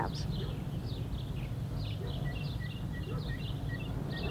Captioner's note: birds chirp